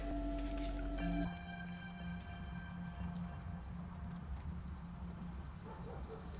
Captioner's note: slow suspenseful music; night sounds